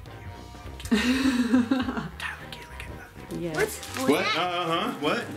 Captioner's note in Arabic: ضحك